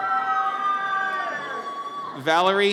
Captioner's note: audience cheers